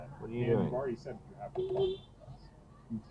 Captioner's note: beepbeep